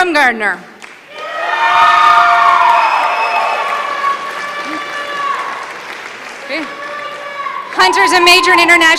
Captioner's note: applause